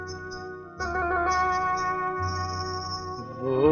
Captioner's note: anklets chimes